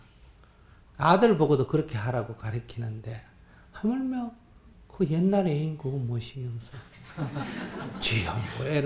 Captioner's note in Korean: 청중웃음